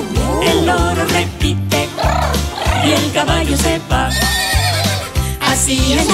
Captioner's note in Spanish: Relincho